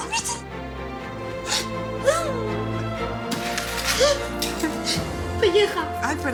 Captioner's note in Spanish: Sollozos